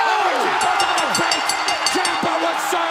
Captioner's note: bell ringing